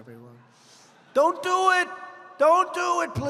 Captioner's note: laughter